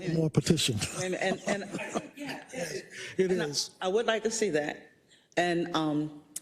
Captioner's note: laugh